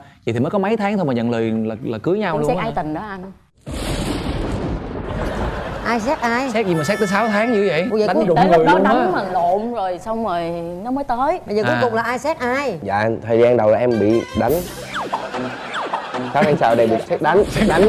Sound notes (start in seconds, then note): 3.6 rolling thunder